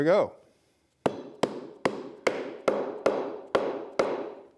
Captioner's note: hammer thudding